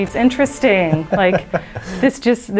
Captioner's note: laughing